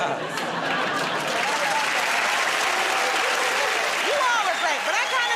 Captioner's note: laughter and applause